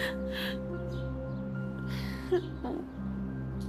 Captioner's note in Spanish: Sollozos